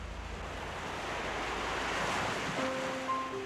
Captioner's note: ocean crashing; gentle piano music